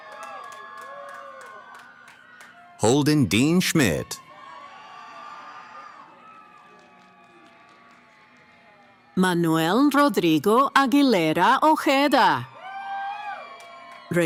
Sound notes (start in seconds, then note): 0.1 cheering; 4.1 cheering